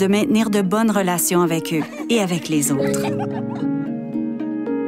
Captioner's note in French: rires